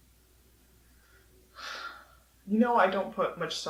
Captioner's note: sighs